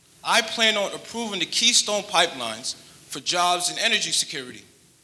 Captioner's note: none